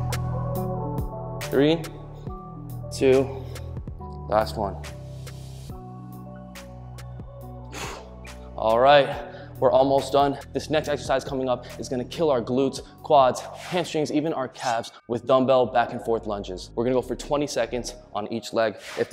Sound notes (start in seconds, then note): 7.7 exhales loudly